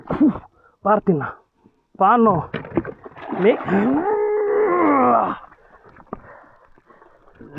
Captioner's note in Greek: βογκητό